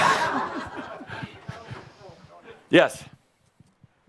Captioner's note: laughter